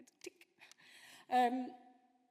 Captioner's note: none